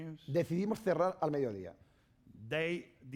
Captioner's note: speaking spanish